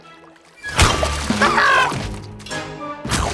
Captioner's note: screaming